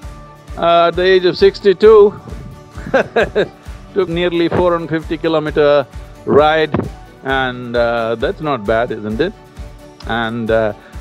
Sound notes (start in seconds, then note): 2.7 laughs